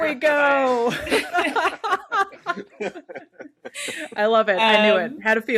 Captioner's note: all laughing